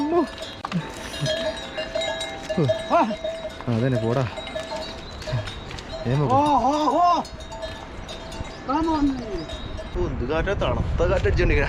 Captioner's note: talking in Nepali